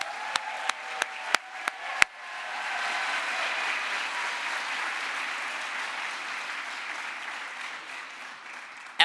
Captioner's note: crowd applause